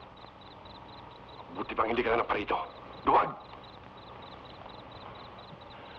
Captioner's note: Magno speaking in Tagalog